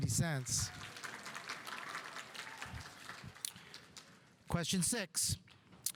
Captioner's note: audience applauding